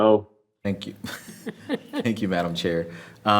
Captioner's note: members chuckling